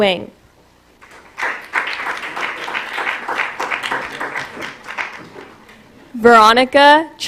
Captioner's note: applause